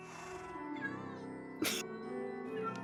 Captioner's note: someone sneezes